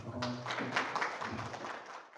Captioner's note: 박수